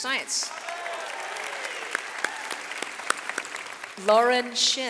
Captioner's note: audience applauds